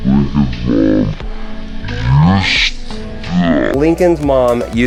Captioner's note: slow-mo mumbling